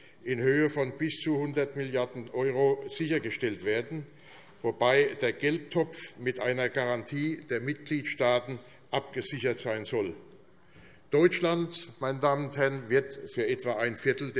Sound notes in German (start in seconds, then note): none